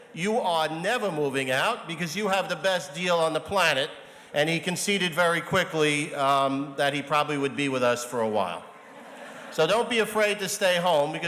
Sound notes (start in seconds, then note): 8.7 audience chuckles